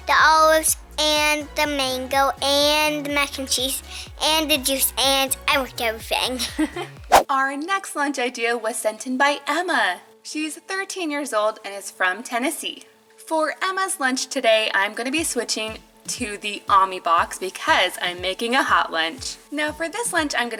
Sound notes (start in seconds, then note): 6.3 laughs